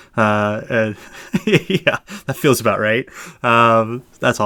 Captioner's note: laughs